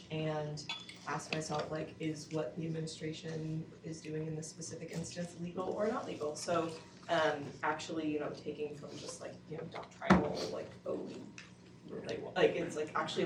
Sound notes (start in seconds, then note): none